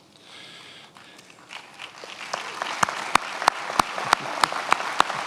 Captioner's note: attendees applauding